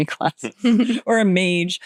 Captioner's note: chuckling